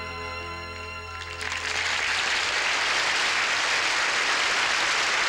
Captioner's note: applause